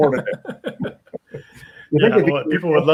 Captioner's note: both laughs